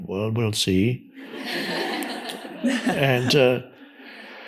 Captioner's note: audience laughs